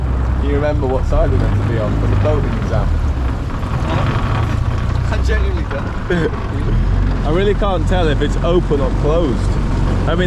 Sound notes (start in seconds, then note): 5.9 laughs